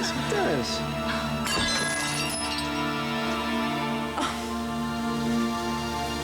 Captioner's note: crash